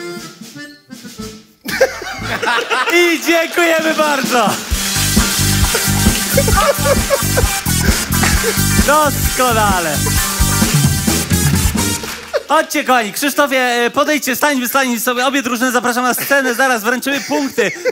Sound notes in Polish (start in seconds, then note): 1.6 śmiech